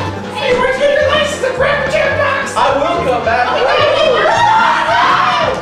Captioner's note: screaming